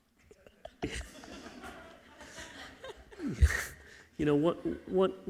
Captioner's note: crowd laughing